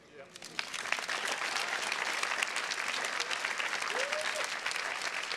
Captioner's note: audience applauding